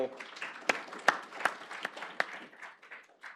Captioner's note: applause